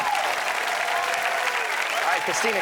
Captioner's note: audience applauds